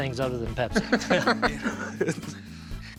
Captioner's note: laughter